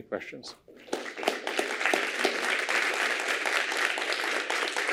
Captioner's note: applause